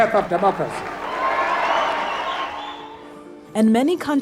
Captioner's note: whooping and cheering